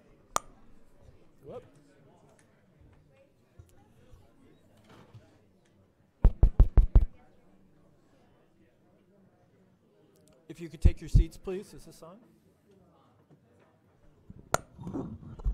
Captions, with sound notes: (loud click) Whoop. (thumping on mic) If you could take your seats please. Is this on?